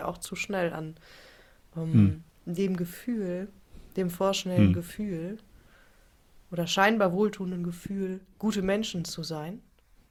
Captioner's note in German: räuspern